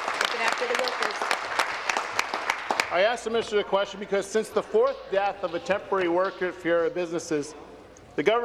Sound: applause

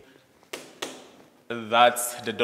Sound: rock thudding

